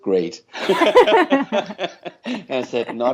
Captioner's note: laughter